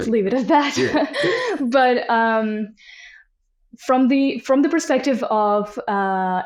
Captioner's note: laughs